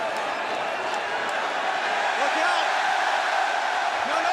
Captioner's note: crowd cheering